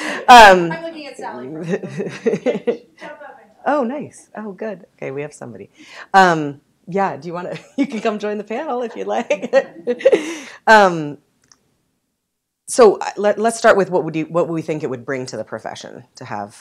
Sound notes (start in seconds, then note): 2.6 chuckle; 10.0 chuckle